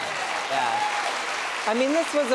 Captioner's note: applause